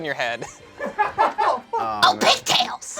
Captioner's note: laughs; audience laughing; screeches